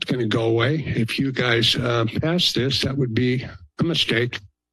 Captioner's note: none